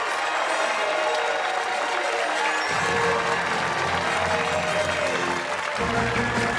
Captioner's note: fanfare; cheers and applause